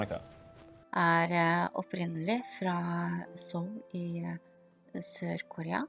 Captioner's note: speaking foreign language